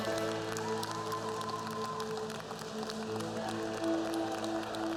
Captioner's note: cheers and applause